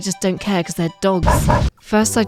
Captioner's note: woof woof